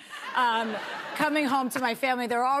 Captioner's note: laughter